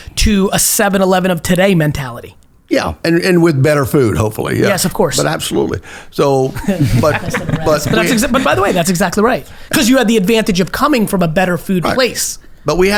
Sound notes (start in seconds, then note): 6.4 laughs